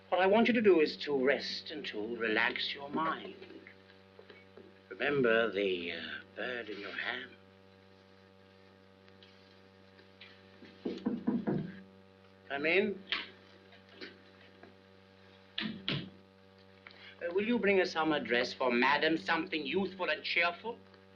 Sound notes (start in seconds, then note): 10.8 knocking on door; 13.1 door opens and closes